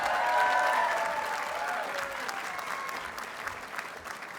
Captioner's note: audience cheers and applauds